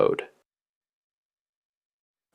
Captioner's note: pause